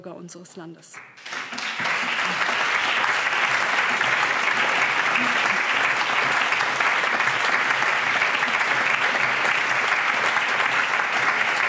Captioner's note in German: Allgemeiner Beifall